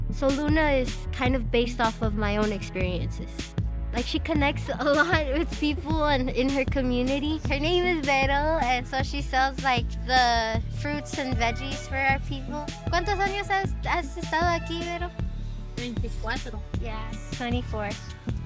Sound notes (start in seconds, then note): 13.0 in Spanish